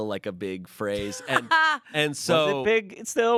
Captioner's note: laughs